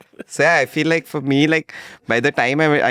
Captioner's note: laughs